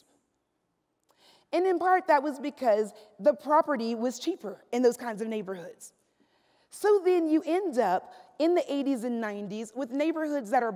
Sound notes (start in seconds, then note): none